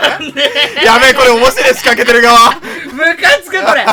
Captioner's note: laugh